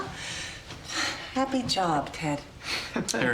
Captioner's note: sighs